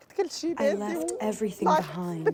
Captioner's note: through translator